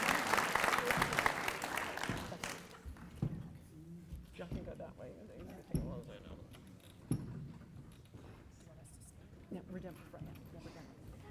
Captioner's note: applause